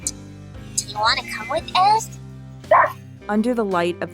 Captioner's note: Ein Barks